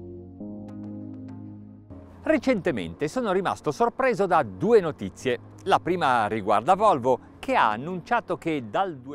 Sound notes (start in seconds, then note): 2.1 speaks Italian